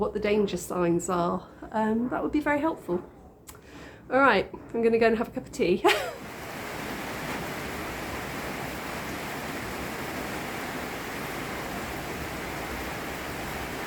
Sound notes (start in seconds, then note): 5.9 rain